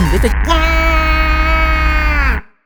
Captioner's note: scream